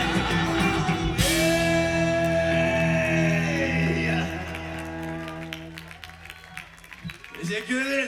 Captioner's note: applause